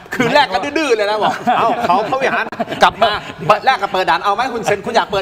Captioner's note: laughs